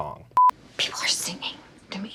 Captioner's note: electronic beep